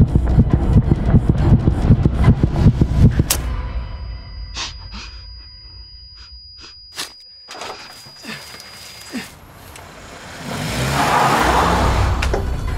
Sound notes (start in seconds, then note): 0.0 tense fast heartbeat; 3.4 high pitched ringing; 9.8 engine revving